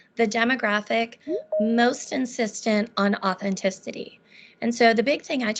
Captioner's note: beeping